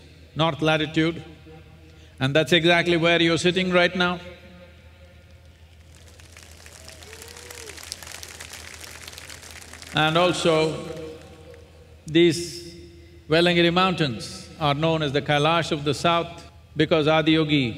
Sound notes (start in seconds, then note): 8.8 applause